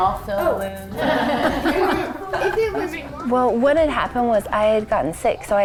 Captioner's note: laughter